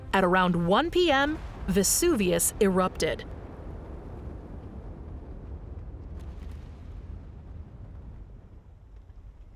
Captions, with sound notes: At around 1:00 PM, Vesuvius erupted. (volcano booms)